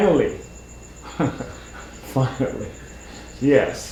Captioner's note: chuckles